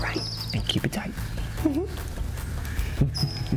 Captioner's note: giggles